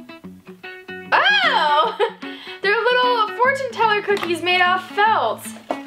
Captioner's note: mellow music; laughs